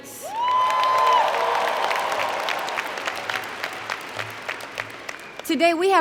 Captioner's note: applause & Cheer